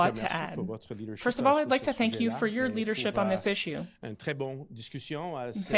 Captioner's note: speaking French